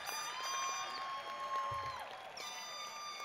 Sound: whistling

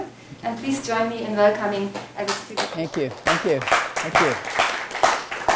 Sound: audience claps

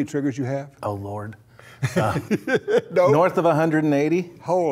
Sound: laughs

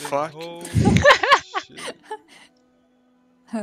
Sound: hahaha

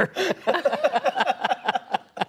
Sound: laughter

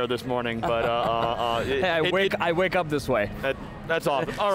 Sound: laughs

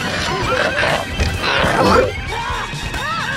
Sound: evil laughter; distorted voice

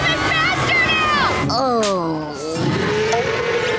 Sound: groaning

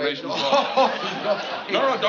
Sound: chuckles

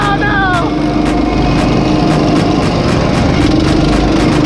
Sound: motors roaring

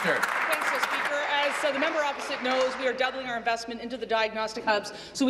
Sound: applause

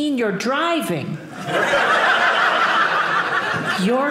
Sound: audience laughing

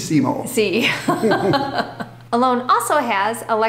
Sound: both laughing

